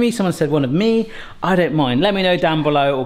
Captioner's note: none